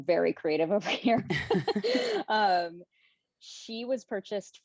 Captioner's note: laughing